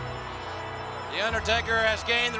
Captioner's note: audience murmuring; ominous music